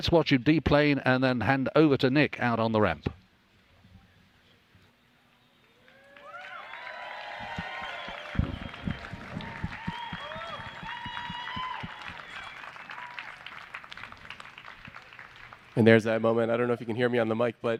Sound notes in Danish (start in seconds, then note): 5.6 Bifald